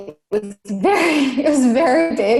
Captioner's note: laughs